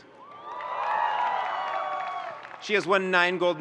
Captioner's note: audience cheering and applauding